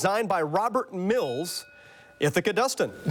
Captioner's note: bell dings